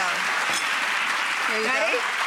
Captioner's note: applause